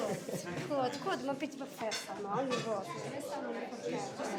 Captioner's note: all chattering